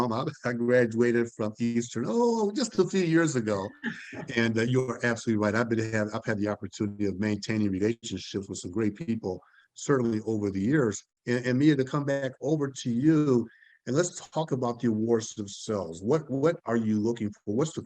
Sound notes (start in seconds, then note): 3.4 laughter